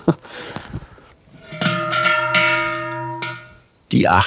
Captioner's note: laughter; muffled sounds of bells